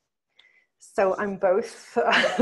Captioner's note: laughs